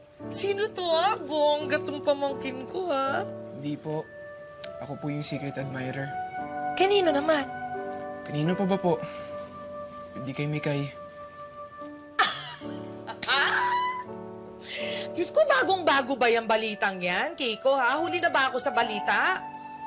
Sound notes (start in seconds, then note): 13.2 laughs